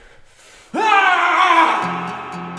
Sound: shout

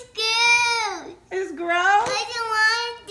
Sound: voiceover

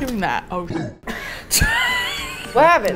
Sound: laughs

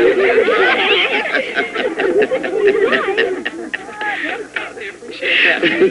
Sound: chuckles

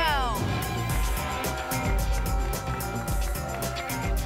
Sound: applause and cheering

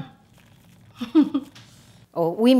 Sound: laughs

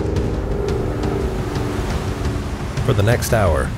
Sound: plane humming

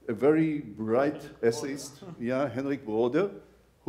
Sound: laughs

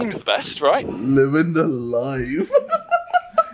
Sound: laughs

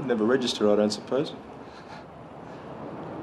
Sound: chuckling

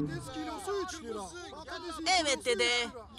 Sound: shouting, calling out customers

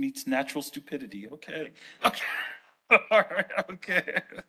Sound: laughs

